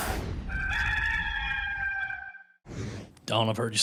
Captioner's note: rooster crowing